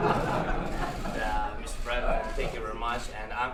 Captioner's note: laughter